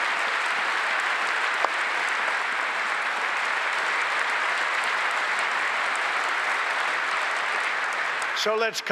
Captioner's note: applause